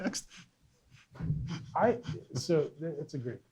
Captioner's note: laughs